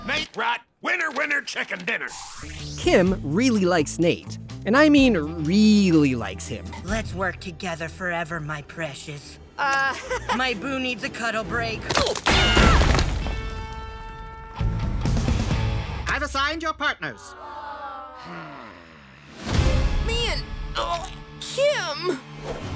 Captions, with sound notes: Nate Wright, winner, winner, chicken dinner. Kim really likes Nate, and I mean, really likes him. Let's work together forever, my precious. Uh. [chuckles] My boo needs a cuddle break. [screaming] I've assigned your partners. [students groaning] Hmm. Me and... Kim?